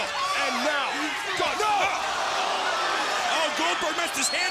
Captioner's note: crowd gasps